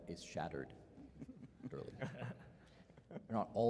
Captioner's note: chuckling